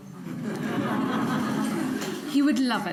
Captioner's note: audience chuckles